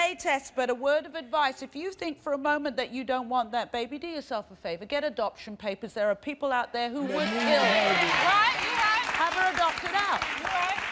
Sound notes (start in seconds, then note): 7.1 applause